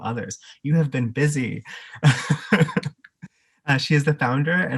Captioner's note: laughs